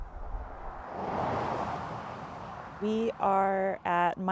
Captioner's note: car traveling on highway